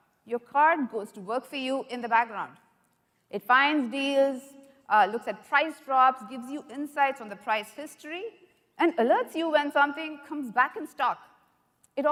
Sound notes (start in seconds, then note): none